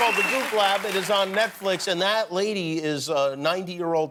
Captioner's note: cheers and applause